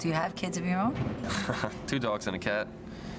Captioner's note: chuckling